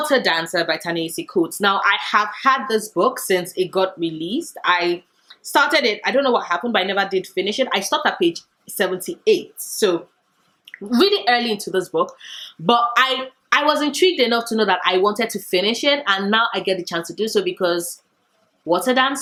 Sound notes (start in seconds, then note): none